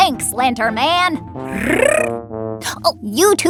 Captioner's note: speedy trills unhappily